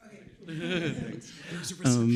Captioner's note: chuckling